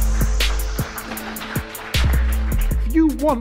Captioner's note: audience applauding